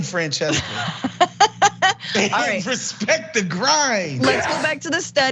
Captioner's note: laugh